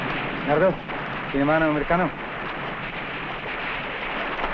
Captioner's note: non-english